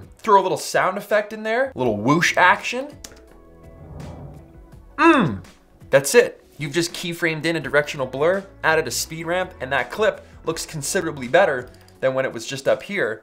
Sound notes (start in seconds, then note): 3.6 whooshing